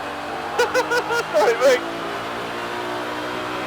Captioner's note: nervous laughter